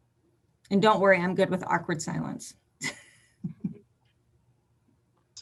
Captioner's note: chuckles